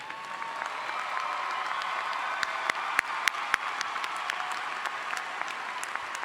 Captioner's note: audience cheers and applauds